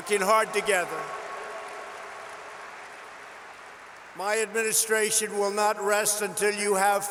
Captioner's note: applause